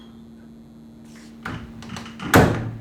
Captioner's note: door opening; door closing